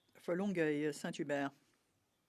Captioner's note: speaking in French